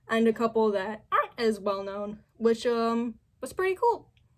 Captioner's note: none